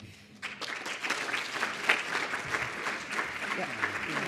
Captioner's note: audience applauding